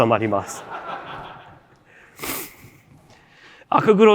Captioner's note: laughter